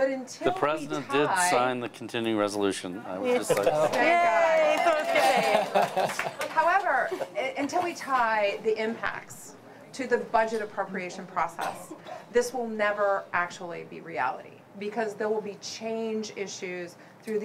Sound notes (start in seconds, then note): 4.6 cheering